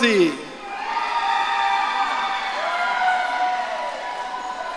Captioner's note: audience cheering